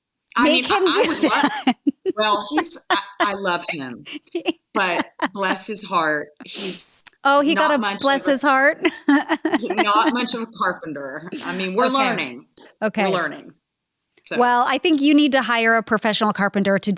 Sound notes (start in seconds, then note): 0.4 laughter; 9.1 laughing